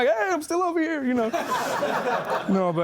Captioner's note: laughing